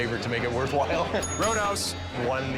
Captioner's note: bell dinging